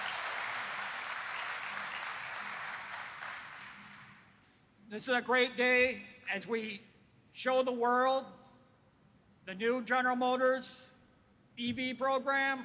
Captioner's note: applause